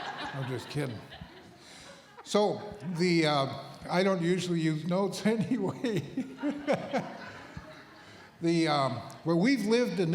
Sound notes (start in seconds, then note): 5.4 laughter